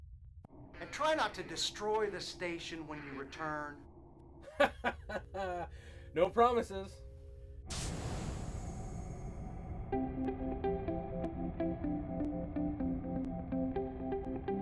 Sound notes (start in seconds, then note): 4.4 laughs